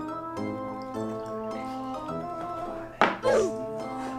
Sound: liquid pouring

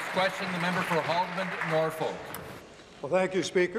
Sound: applause

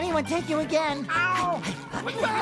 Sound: meows

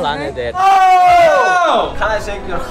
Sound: screaming

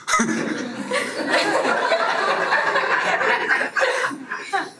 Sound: audience laughing

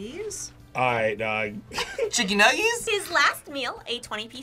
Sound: laughs

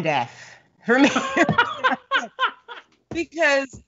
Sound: Brennan laughs

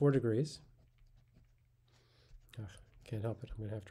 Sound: pen scratching on paper

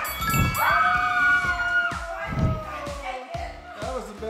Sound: excited celebration

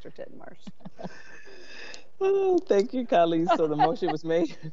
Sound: laughs

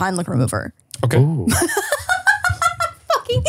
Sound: laughs

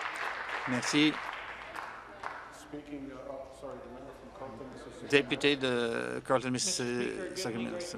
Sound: applause

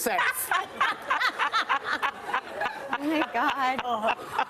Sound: people laughing

